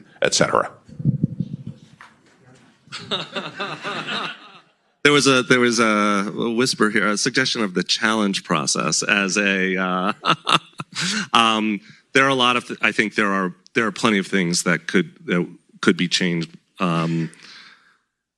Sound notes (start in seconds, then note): 2.9 laughter; 10.1 laughs